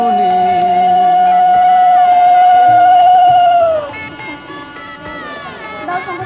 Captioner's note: blowing conch